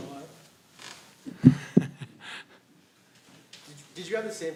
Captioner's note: laughter